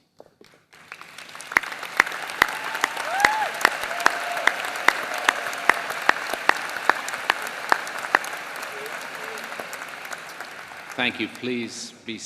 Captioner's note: applause